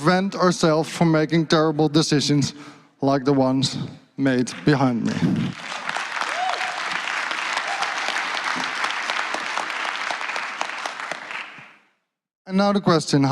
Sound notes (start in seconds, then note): 7.0 applause